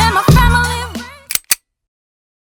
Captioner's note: click